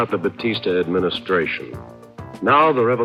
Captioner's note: archival news audio